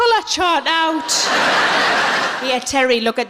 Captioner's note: laughing